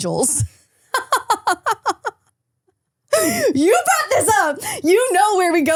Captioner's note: laughs